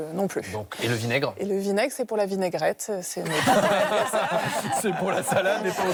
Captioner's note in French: rires